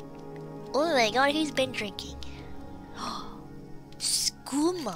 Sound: gasp

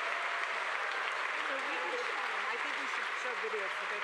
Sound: audience applauding

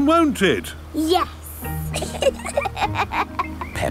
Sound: both laughing

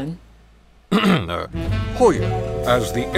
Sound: narrator clears throat

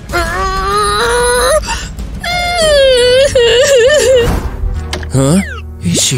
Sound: starts crying abruptly

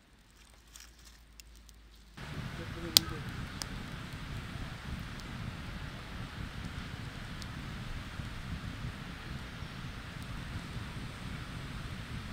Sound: sound of nature

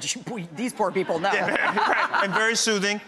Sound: all laughing

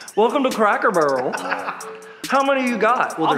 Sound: laughs

